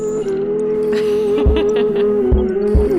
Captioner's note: woman laugh